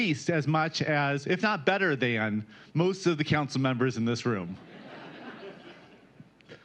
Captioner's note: laughter